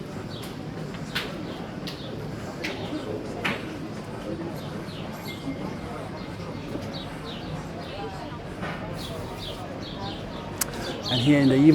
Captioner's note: people Speaking